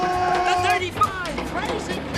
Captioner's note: car horn